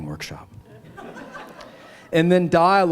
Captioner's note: laughter